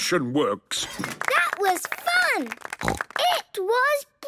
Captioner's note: applause